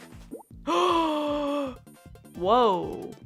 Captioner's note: gasp